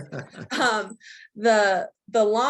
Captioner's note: laughs